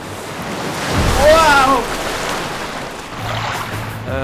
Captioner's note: waves crash